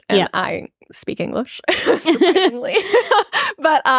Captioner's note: laughing